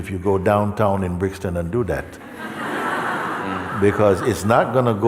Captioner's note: Lachen